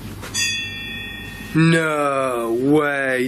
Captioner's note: bell rings